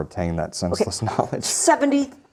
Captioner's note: laughs